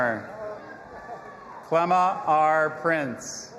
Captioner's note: audience applauding and cheering